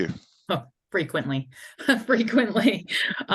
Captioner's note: laughs